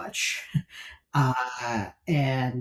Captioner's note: laughs